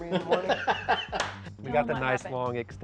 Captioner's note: laughter